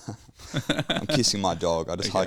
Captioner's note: laughing